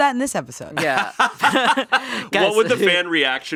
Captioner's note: laughing